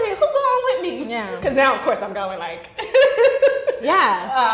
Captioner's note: laughing